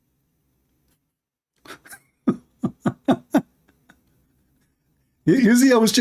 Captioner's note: Ketawa